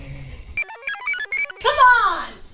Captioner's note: computer chirps